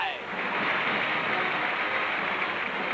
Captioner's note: applause